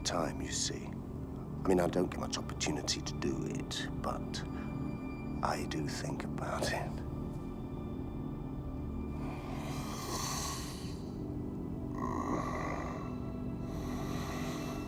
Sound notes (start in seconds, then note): 9.2 sniffs; 11.8 moans